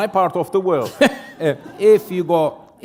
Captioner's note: chuckle